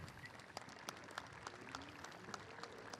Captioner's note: applause